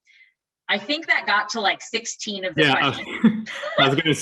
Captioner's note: laughs